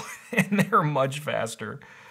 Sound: laughing

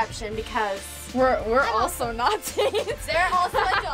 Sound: laughs

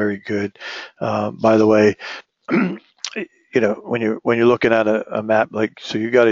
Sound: cough

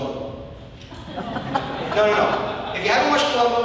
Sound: audience laughing

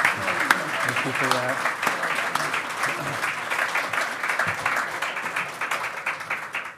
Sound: loud clapping

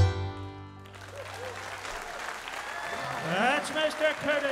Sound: audience applauding

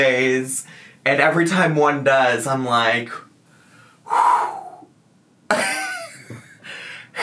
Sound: sighs

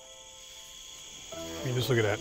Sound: crickets chirping

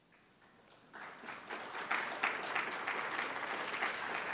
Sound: clapping

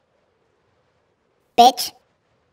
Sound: high pitched

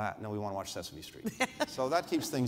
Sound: laughter

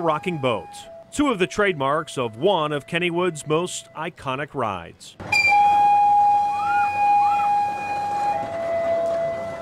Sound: whistling

